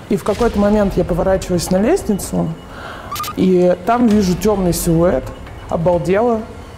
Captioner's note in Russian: none